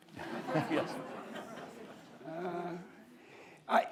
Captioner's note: audience laughs